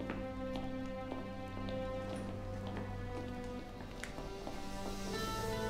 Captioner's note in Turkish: Ayak sesleri